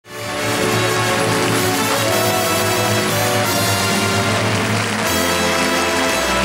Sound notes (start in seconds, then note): 0.0 big orchestral music; 0.2 audience applauding